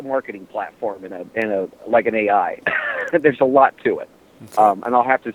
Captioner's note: cough